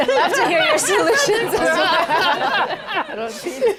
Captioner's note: laughter